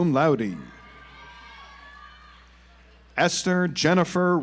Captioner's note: audience applauds